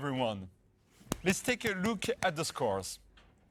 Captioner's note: claps